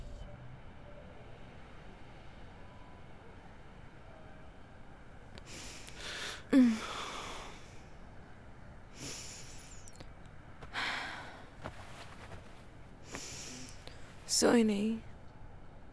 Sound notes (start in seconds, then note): 5.4 Sighing; 10.7 Shreya sighs